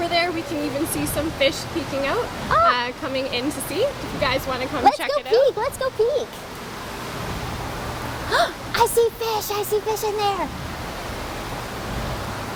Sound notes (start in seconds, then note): 8.3 gasps